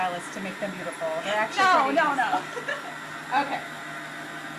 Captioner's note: laughs